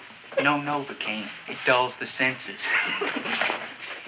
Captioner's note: chuckles